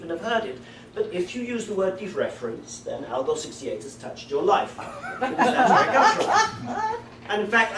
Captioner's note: laughter